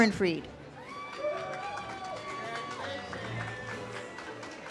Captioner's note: audience cheers